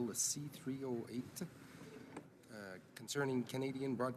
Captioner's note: speaking in french